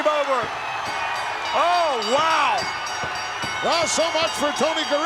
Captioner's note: ring bell clanging